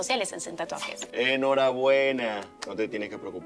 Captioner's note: clapping